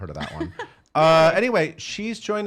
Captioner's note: laughing